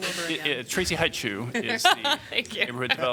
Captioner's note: laughter